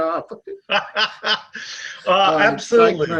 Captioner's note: laughs